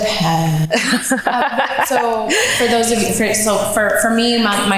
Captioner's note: laughs